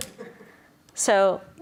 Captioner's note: audience laughing